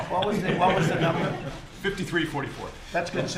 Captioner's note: laughter